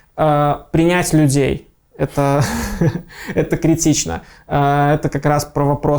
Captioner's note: laughing